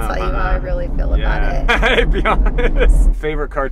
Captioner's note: laughing